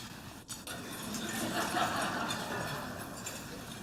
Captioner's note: laughter